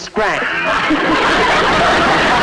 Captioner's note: laughing; audience Laughing